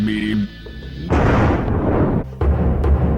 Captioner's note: convenient thunder